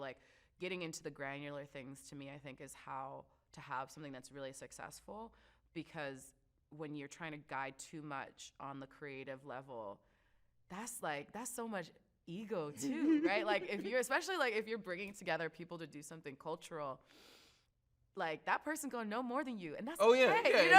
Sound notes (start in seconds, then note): 12.8 chuckles